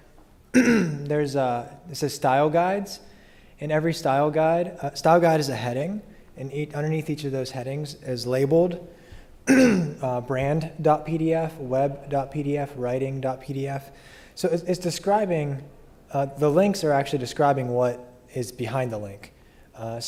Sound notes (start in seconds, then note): 0.5 cough; 9.4 cough